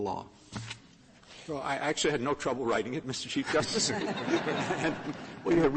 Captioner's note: laughter